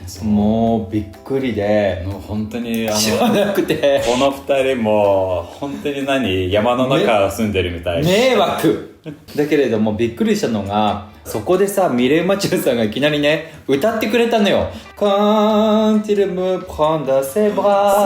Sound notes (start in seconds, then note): 7.4 laughs